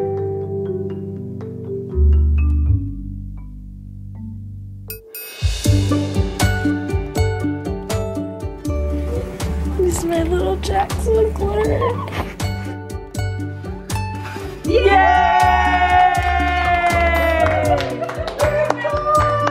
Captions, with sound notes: - It's my little Jackson boy. (all cheer)